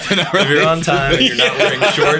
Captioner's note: laughter